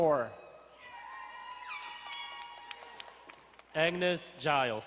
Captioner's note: crowd cheering and horn blowing